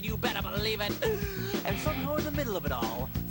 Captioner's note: inhale